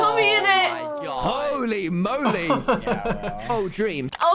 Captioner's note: laughs